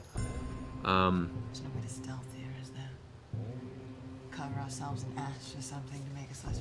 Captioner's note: quietly